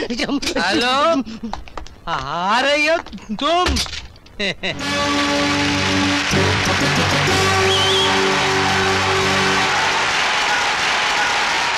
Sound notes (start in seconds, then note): 4.8 crowd Applauding